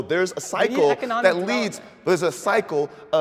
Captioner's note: murmuring